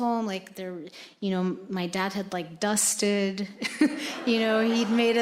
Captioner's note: audience laughing; laughs